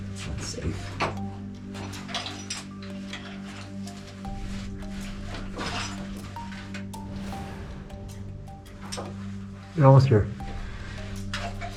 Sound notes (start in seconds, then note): 2.0 metal clanking; 2.0 shuffling